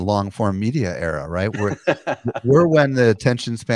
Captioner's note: laughs